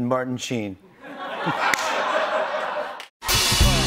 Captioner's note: laughter